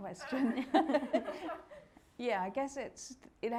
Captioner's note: all laughing